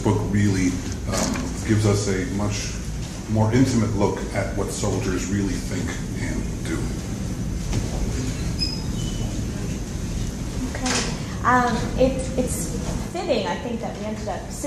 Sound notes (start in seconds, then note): 9.1 chairs move